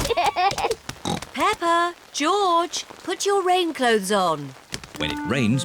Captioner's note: both giggling; oinks